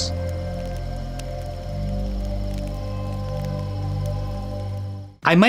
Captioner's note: campfire crackles